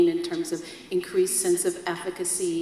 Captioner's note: none